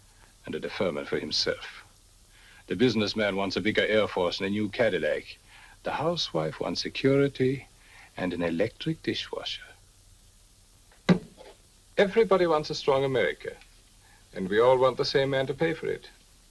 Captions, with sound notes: and a deferment for himself. The businessman wants a bigger Air Force and a new Cadillac. The housewife wants security and an electric dishwasher. (glass thuds) Everybody wants a strong America and we all want the same man to pay for it.